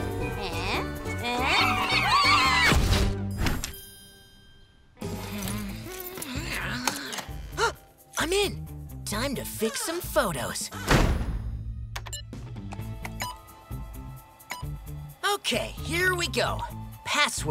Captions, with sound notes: Heh? Heh? [screaming] [groaning] [gasping] I'm in. Time to fix some photos. [beeping] Okay, here we go. Password?